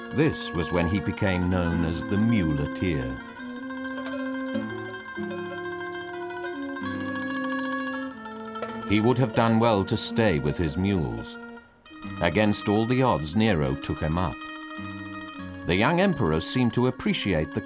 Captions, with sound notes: This was when he became known as the muleteer. (cowbell clanging) He would have done well to stay with his mules. Against all the odds, Nero took him up. The young emperor seemed to appreciate